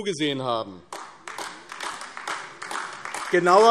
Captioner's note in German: Beifall AfD